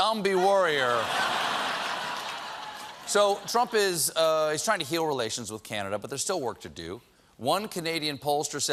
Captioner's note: laughter